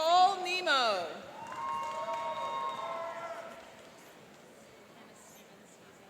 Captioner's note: cheering and applauding